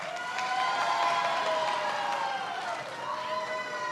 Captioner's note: many applauding